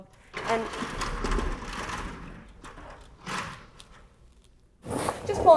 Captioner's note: ladder clatters loudly